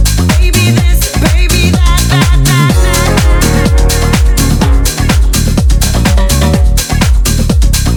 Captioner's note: fan